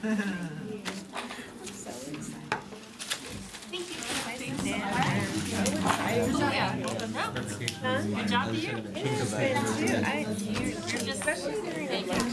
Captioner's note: background Discussion